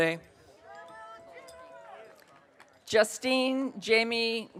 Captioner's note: audience cheering